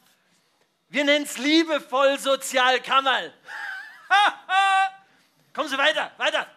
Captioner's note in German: lacht